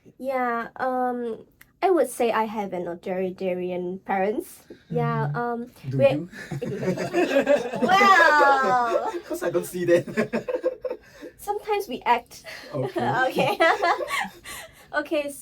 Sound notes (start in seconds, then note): 6.4 everybody Laughing